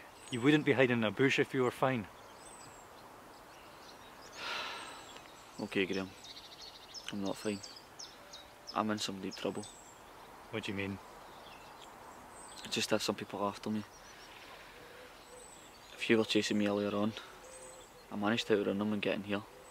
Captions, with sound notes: You wouldn't be hiding in a bush if you were fine! (Sighs) Ok Graham. I'm not fine. I'm in some deep trouble. What do you mean? I just have some people after me. A few were chasing me earlier on. I managed to outrun them and get in here.